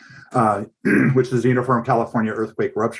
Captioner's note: clearing throat